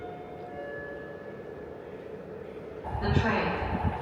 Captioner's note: speaker chiming